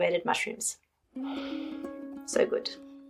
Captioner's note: sniffing